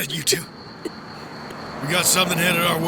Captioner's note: sound of engines